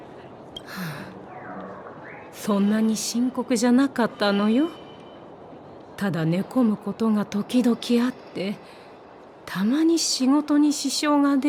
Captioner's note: sigh